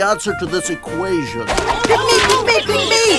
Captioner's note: garbage thwacks the board